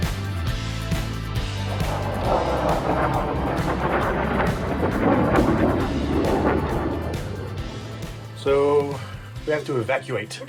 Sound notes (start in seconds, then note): 1.4 jet roaring